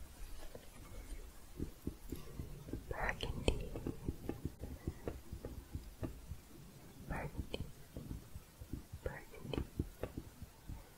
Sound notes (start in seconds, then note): 0.0 typing continues, then tapping; 4.3 tapping continues; 10.2 tapping continues, then typing